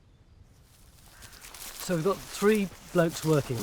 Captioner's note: footsteps rustle grass